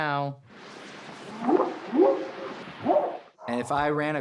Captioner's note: whooping sound